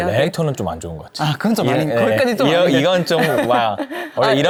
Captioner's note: laughs